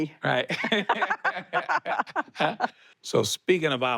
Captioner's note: both laugh